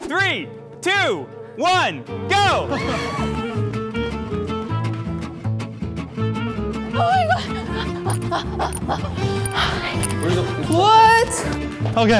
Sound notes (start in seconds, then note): 3.4 upbeat polka music; 9.4 panting